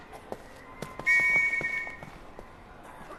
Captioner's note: police whistle